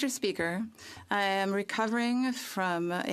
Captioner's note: speaking French